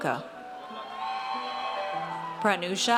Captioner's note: audience cheers